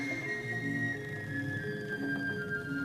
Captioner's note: creaking and rattling